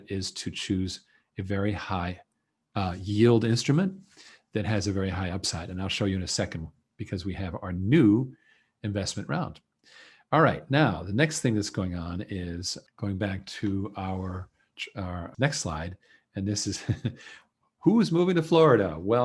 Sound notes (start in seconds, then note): 16.7 chuckles